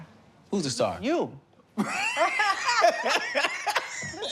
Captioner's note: laughter